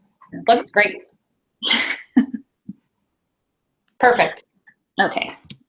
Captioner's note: chukles